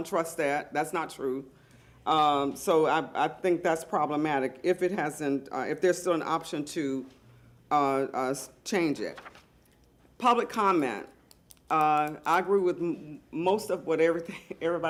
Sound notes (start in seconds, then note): none